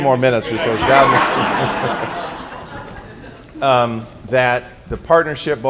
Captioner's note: laughter